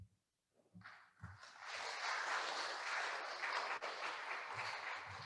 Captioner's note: attendees applauding